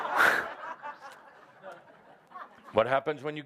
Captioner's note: laughter